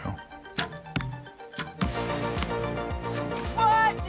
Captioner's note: arrow hits target